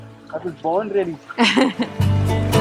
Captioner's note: chuckles